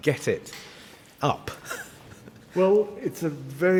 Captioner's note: laughs